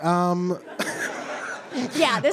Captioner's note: audience laughs